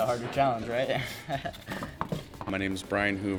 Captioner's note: chuckles